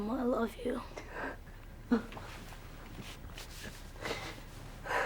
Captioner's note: sobbing